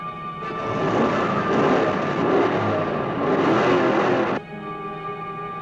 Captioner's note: accelerating engine; worrying music